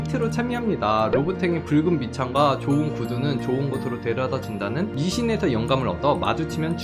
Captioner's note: voiceover